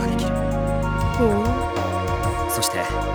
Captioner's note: impressed hum